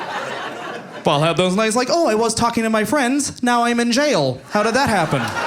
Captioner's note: audience laughing